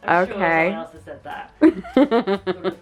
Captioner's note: laughs